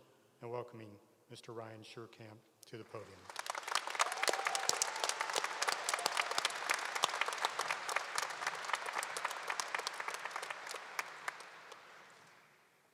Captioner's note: applause